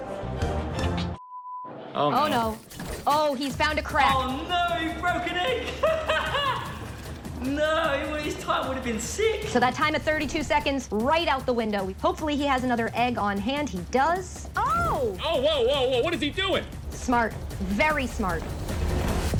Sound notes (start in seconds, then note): 5.2 laughing